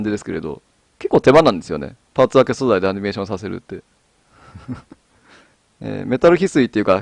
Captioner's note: laughs